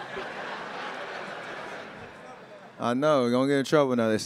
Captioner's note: attendees laughing